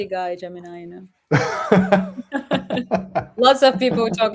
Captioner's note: laughter